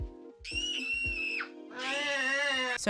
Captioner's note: screaming